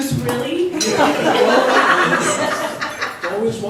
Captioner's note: laughs